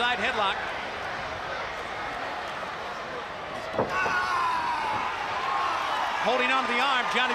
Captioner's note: crowd cheering